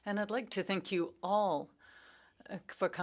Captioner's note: speaking French